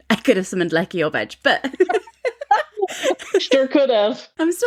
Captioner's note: laughing